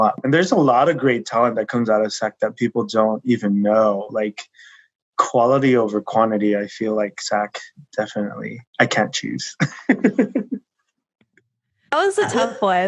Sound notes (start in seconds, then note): 8.8 laughing